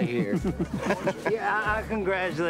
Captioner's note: laughing